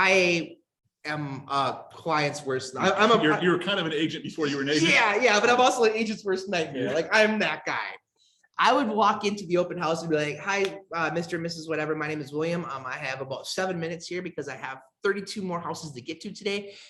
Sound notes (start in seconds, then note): 6.6 laughs